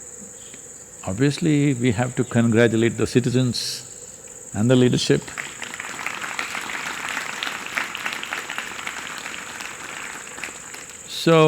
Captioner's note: applause